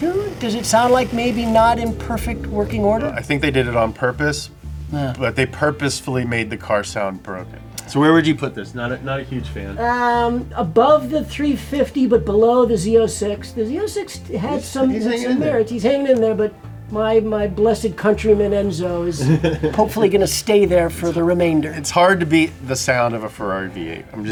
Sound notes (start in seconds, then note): 19.2 laughs